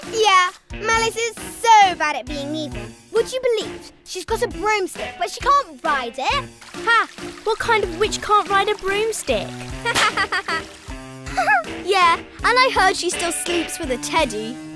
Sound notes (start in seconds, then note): 11.2 laughing